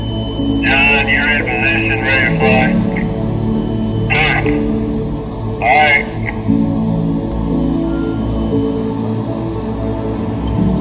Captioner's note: construction crew preparation – talking in background